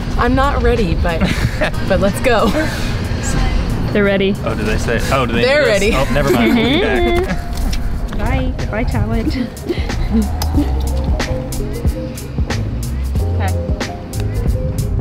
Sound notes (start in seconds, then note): 9.1 laughs; 11.3 bright music